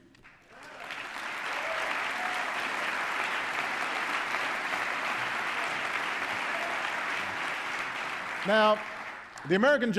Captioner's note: applause